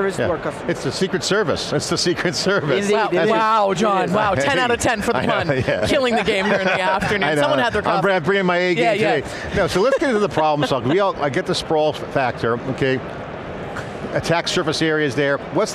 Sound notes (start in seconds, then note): 4.7 laughs